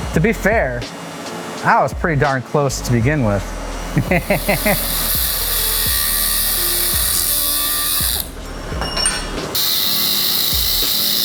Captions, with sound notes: To be fair, I was pretty darn close to begin with. [buzzing]